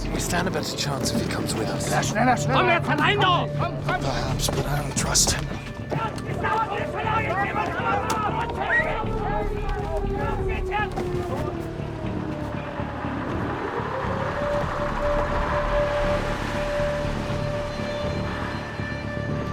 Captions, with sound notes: - We stand a better chance if he comes with us. (speaks in foreign language) - Perhaps, but I don't trust him. (soldiers yelling) (siren wails)